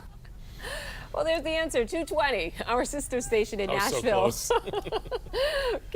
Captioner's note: laughter